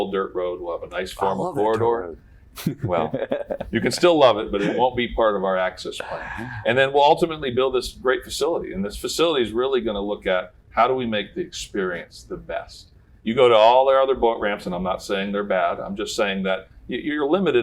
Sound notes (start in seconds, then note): 2.6 laughter